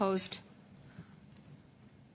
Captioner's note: speaking French